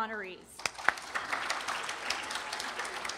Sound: applause

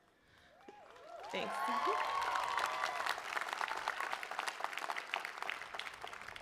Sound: cheering

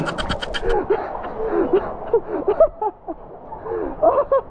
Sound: laughing

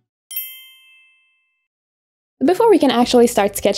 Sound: dinging sound effect

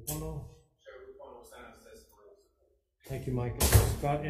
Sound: faintly speaking

